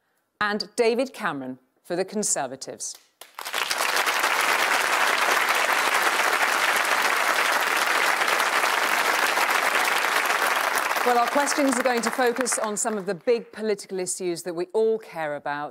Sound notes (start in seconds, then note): 3.2 applause